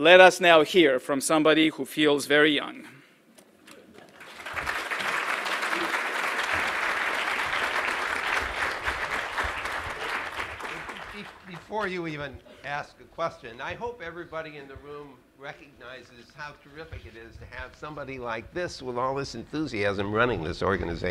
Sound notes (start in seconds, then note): 5.7 applause